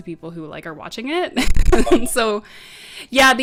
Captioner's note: giggles